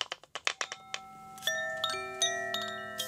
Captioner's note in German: Klingeln